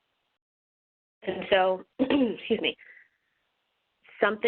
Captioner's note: clears throat